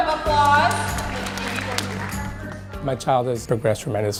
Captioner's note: applause